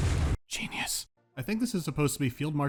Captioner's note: whispering